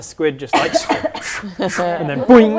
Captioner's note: swish swish swish